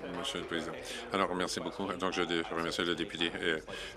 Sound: applause

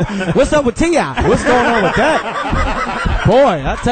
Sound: all laugh

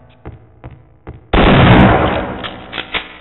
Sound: shotgun firing

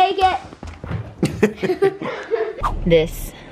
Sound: laughter

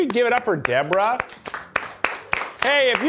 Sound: crew applauding

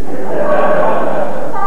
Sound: laughter

